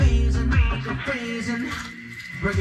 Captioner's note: ice scraping sound